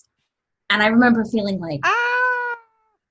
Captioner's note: laughs